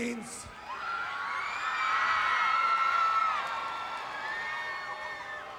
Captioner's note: applause